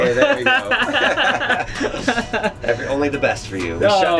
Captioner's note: laughing